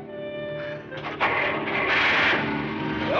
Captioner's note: engine starting